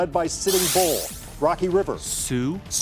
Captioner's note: buzzer chiming